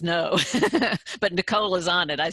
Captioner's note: laughs